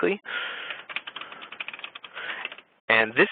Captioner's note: typing